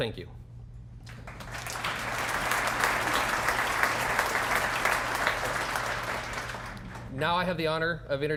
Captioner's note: applause